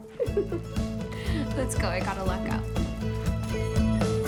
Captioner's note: laughs